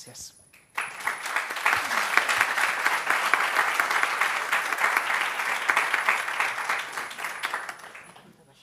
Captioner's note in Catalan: aplaudiments